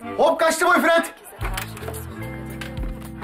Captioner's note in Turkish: Televizyon sesi